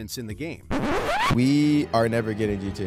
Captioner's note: record scratching